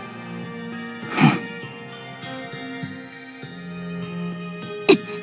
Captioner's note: sigh